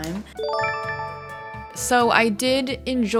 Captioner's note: chime